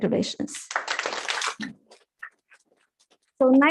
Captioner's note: applause